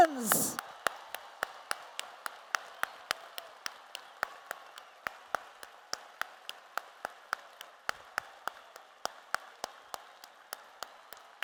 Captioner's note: applause